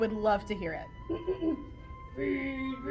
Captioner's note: throat clearing